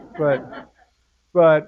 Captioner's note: laugh